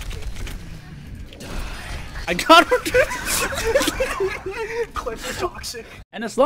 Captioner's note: laughter